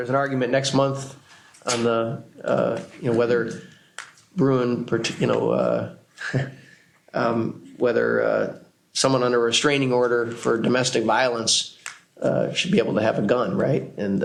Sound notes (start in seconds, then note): 6.2 laughs